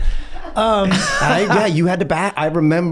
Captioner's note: laugh